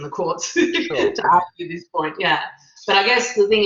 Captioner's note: laughs